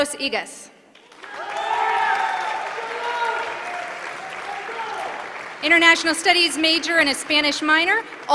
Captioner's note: applause